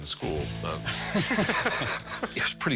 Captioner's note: laughter